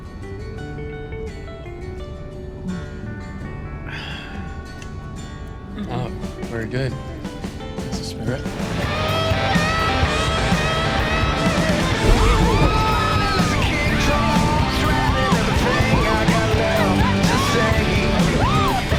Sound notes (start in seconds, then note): 11.8 yelping; 14.2 singing